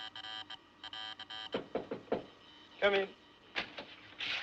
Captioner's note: Batendo